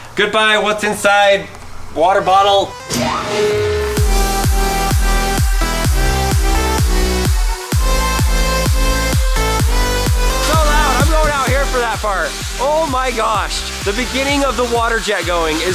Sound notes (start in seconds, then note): 2.8 machine sawing; 4.0 upbeat music